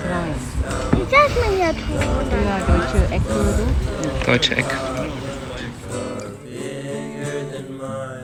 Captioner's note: speaking German; background music